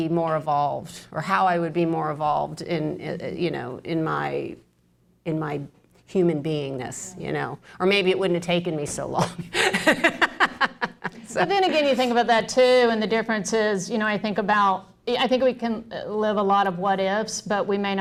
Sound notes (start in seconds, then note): 9.4 laughs